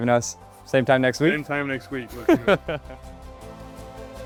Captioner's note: host chuckling; lively music